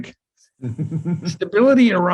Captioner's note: chuckles